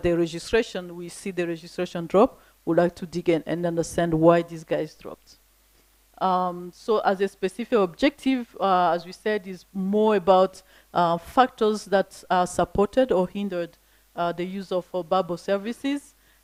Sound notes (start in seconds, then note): none